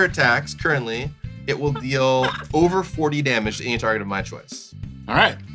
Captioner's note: laughs